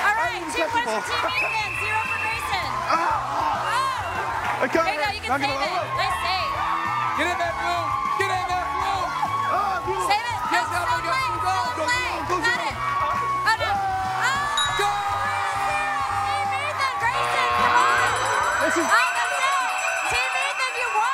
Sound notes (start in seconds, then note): 1.3 whistle blowing; 2.9 shouting; 17.6 buzzer sounds, bell ringing